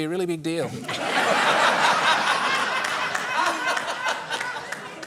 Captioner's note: laughter